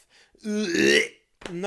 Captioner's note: imitates vomit noise